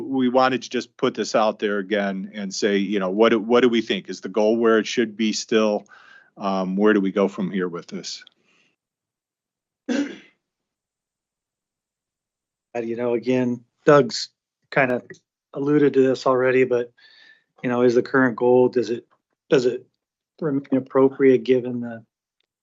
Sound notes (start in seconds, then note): 9.9 clears throat; 9.9 cough